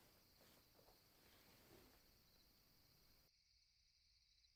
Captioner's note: clothes Rustle